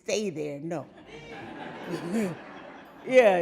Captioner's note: audience laughing